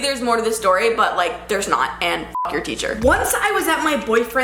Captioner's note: beep